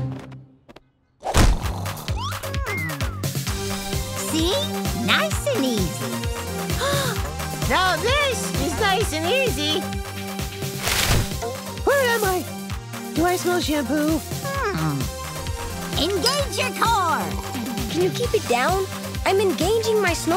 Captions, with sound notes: [snoring] Hmm. See? Nice and easy. [gasping] Now this is nice and easy. Where am I? Do I smell shampoo? Hmm. Engage your core. Can you keep it down? I'm engaging my snore.